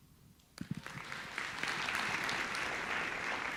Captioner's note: applauding